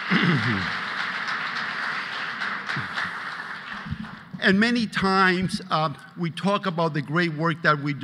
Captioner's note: applause